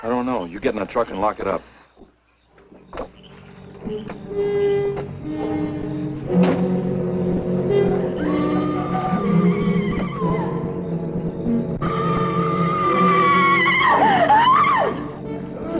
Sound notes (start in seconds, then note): 2.9 tense music; 8.3 Liz screaming